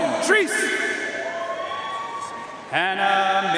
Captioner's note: audience cheering and applauding